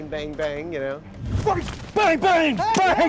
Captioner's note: whooshing